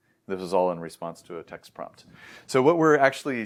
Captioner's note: inhales